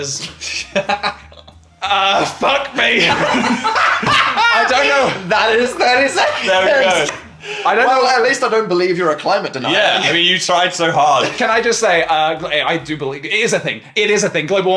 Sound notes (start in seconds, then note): 0.2 laughing; 3.1 all laughing